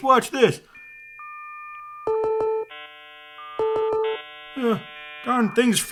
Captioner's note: dial up internet beeping